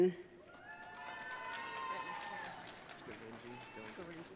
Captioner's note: audience cheering